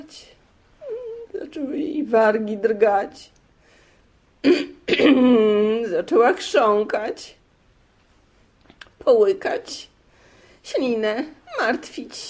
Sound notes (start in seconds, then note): 0.8 crying